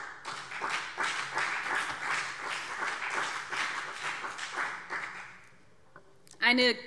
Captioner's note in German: Beifall BÜNDNIS 90/DIE GRÜNEN und CDU